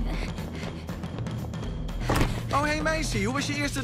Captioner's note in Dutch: deur opent